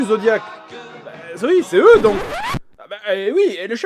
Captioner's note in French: disque rayé